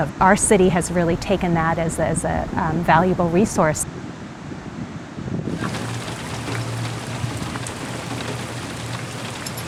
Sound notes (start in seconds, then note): 5.5 heavy rain sound